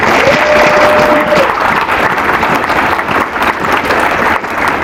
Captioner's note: applause